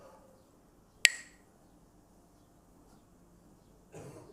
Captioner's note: Mooji clacks the sticks